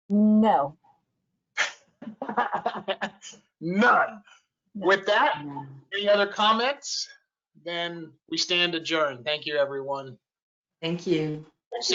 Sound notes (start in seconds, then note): 2.0 laughter